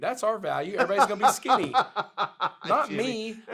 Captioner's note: laughs